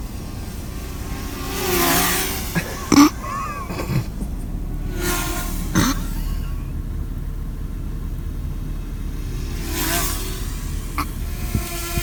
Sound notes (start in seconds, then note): 2.1 drone whirs; 2.3 men snorting; 5.2 drone whirs; 6.1 men snorting; 10.0 drone whirs; 11.8 drone whirring